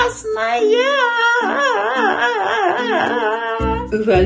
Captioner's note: crying